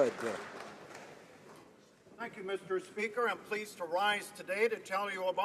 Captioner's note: applause